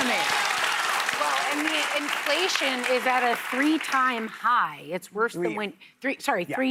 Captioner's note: laughter and applause